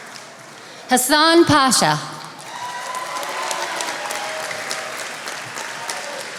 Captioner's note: attendees applauding